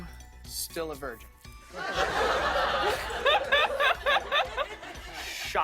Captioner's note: laughter